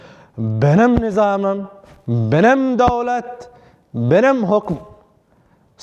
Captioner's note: Turkish